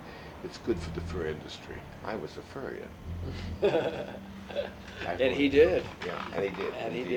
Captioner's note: laughs